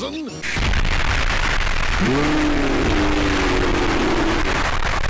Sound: robotnik fulminates

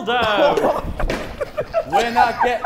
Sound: Sidemen laughing

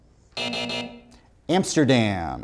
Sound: buzzer sounds

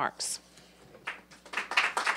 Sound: applause

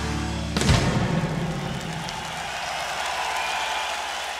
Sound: audience cheering

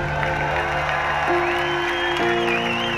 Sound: cheering

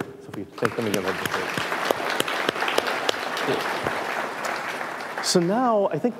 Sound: audience applauding

